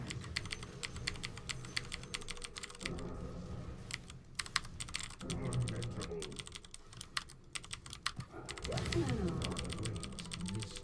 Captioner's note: dog